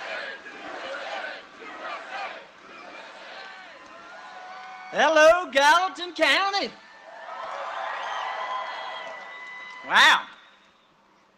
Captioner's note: cheering and applause; chanting usa